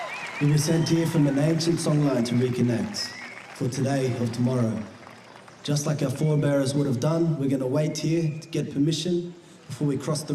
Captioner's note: cheering and applause